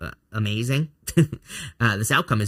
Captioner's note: chuckles